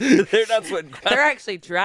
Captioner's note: laughs